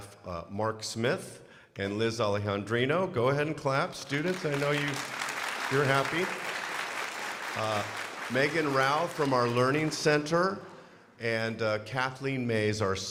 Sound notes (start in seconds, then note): 5.9 crowd applauding